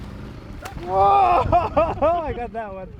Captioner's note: fish splashes; laughs